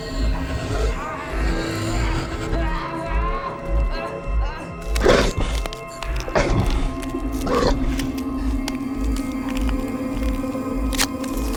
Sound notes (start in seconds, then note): 0.0 vampire laughs; 3.1 Adam groans; 3.1 vampire growls